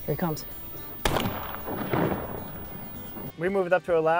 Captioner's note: gunshot